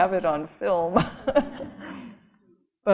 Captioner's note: cheerful laughing